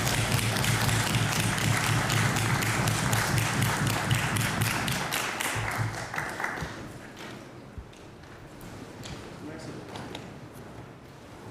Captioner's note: applause